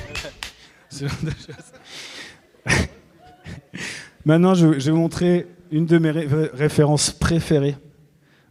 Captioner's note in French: rires